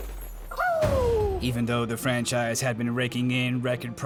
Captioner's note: sean hooting